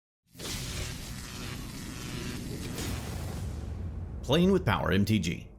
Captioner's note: electricity sizzling